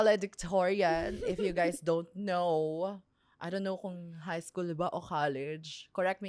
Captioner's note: laughs